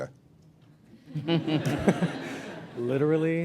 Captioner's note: laughter